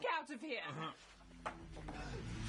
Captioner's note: Carl grunting in agreement